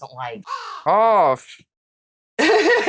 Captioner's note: caw